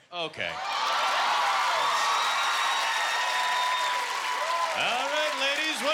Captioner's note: cheering